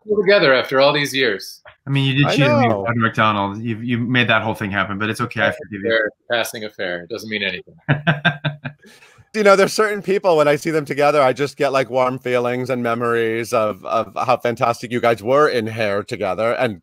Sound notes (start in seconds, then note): 7.8 laughs